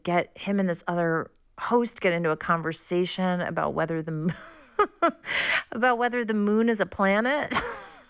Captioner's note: laughter